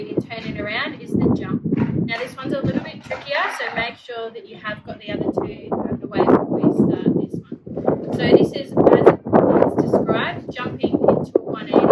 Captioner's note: wind noise